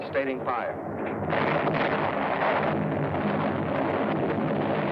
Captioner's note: cannons firing